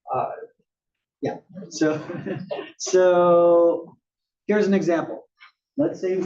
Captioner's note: laugh